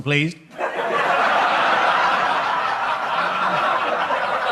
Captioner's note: audience laughs